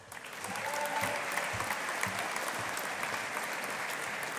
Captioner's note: audience applauding